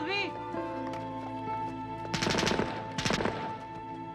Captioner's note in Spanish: gunfire